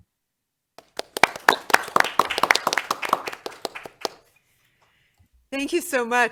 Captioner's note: applause